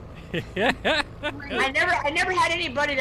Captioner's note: laughs loudly